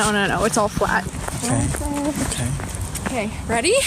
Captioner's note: feet crunching on gravel